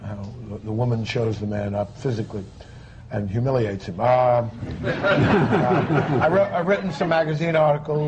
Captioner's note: laughter